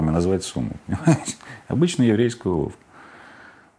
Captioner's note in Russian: смеется